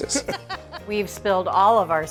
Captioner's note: hosts laughing